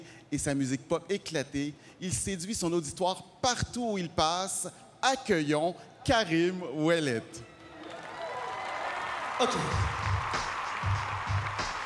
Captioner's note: speaking French